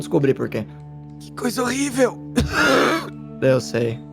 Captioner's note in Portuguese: tosse